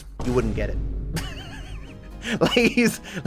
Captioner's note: laughs